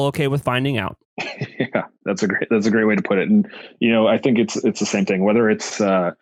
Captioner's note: laughs